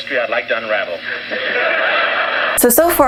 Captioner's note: audience Laughs